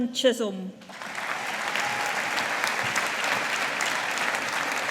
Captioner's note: audience applauding